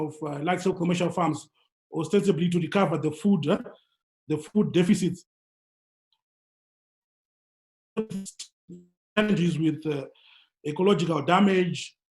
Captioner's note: glitch